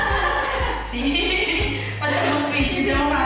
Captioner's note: laughing